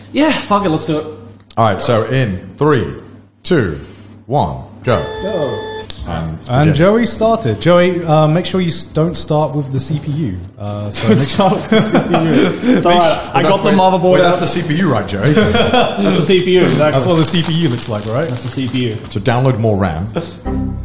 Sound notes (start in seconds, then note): 4.8 long beep